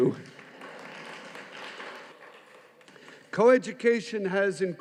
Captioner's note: audience applauding